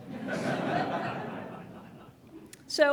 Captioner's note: audience laughs